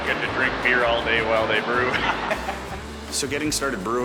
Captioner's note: laughs